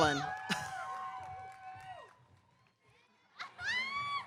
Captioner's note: cheering